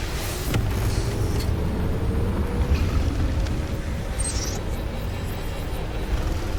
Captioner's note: engine blasting; machine beeping